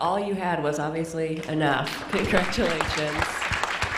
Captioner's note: applause